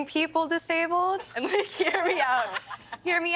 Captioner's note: all laughing